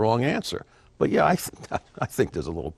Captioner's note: laughing